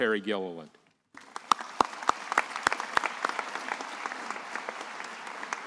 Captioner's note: attendees applauding